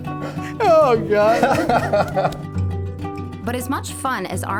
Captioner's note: laughing